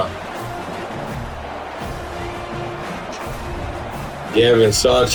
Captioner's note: crowd Noises